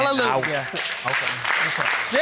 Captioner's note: audience applauding